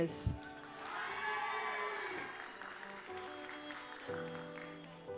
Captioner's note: audience applauds